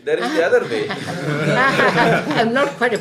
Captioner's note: laughter